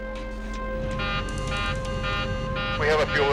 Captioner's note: alarm beeping